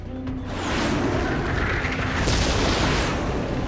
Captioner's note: plane whooshing